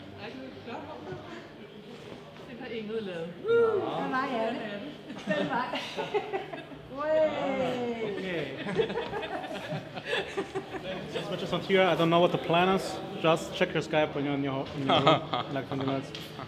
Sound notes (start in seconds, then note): 0.3 offscreen, Danish; 3.7 Danish; 6.7 everyone cooing appreciatively; 8.6 everyone laughs